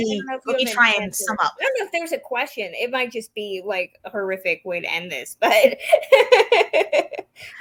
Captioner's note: laughs